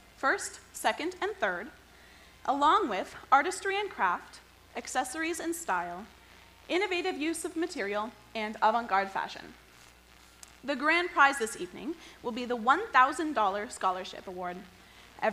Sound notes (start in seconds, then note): none